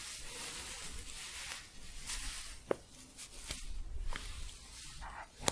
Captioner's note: softer staticky shuffling